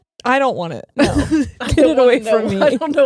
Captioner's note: laughing